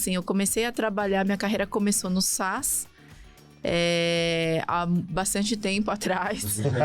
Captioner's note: laughs